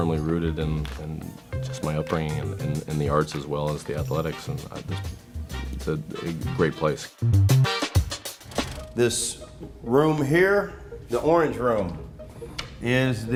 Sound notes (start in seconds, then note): 8.4 camera rolling sound